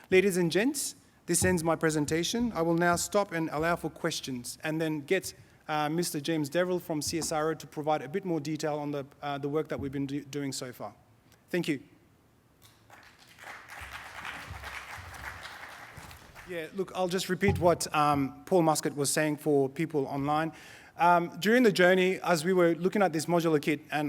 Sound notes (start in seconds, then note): 12.8 audience applause